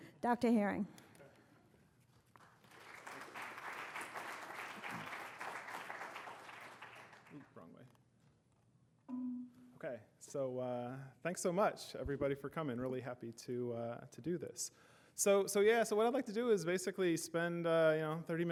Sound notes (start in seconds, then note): 2.3 applause